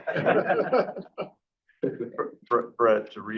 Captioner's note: board members laughing